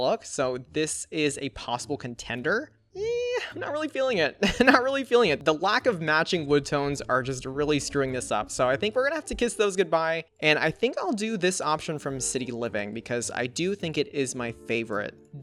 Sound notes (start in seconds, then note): 3.0 laughs